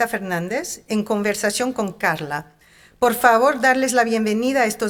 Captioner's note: speaking in Spanish